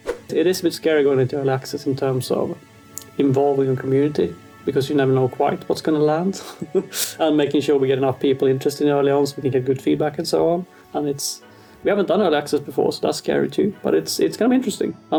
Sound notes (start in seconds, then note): 6.3 chuckles